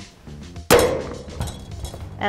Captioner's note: ax chopping with a bang